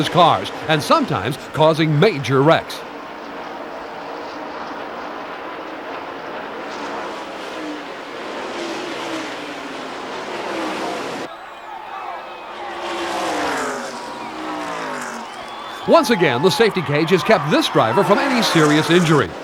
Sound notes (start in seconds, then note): 7.0 engines zoom; 11.9 crowd cheers